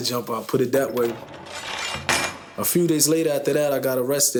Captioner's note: prison doors closing